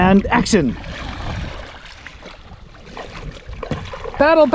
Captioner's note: water splashing